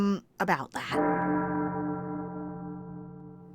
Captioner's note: bell tolling